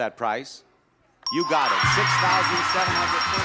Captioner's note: bell chiming; audience applauding